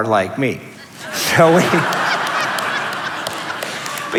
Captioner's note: laughter